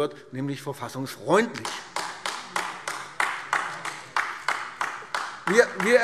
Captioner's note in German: Beifall AfD